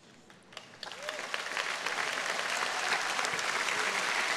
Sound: audience applauding

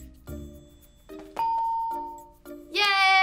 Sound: bell rings

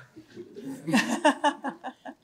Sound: laughs

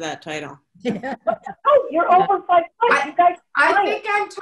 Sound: laughing

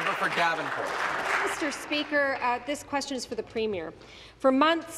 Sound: applause

